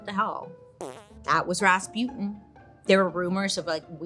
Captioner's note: raspberry blowing